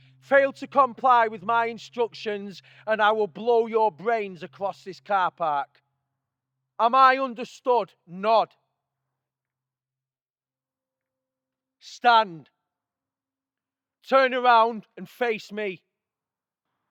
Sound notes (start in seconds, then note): none